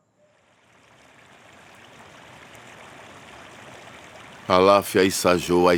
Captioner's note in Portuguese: voz masculina em yorubá